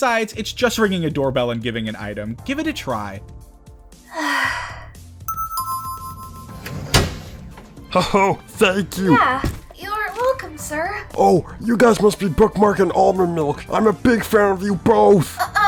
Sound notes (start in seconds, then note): 4.1 sigh